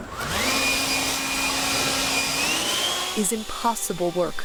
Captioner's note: blower howling